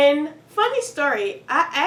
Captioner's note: none